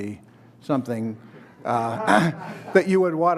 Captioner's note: laughter